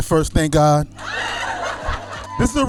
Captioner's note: laughing